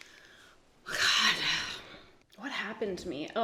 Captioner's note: sighs